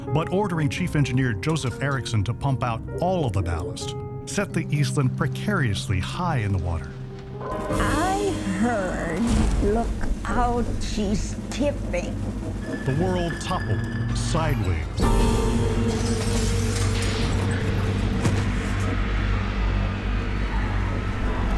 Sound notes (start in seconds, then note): 15.0 furniture crashing; 15.1 piano clangs; 18.7 ominous music